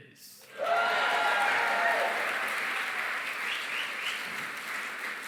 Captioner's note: cheering, applause